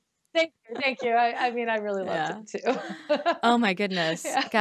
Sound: laughs

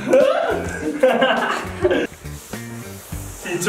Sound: laughing

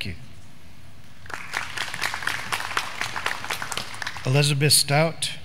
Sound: graduands clapping

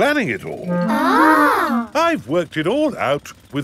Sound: children gasp in awe

